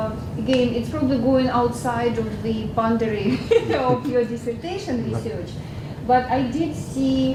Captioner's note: laugh